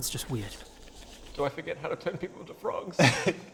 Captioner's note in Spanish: Voz triste